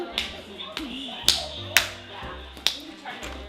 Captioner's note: clapping